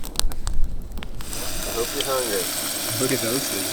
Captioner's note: oil sizzling